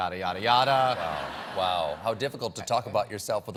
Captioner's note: laughter